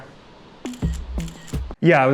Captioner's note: camera clicking